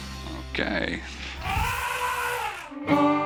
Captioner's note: elephant trumpet